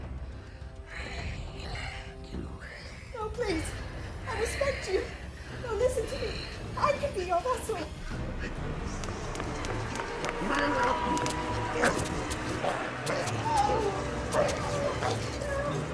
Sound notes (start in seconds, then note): 8.9 footsteps clicking